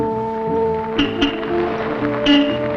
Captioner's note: vintage music; honking horn